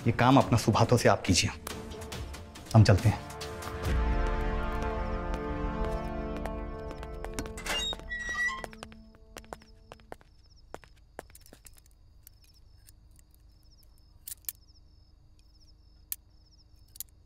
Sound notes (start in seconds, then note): 5.3 footsteps; 7.4 gate opening; 9.4 footsteps